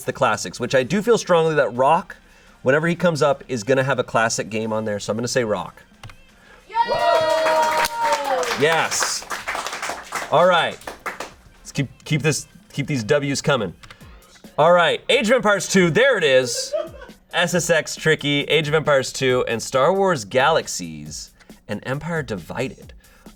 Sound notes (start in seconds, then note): 6.7 audience cheering